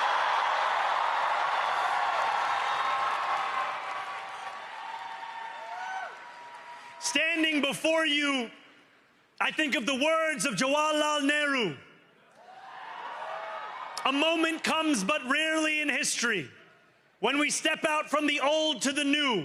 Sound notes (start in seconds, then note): 11.2 cheering